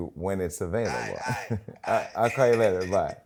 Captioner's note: on phone